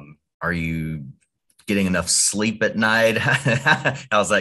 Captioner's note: laughing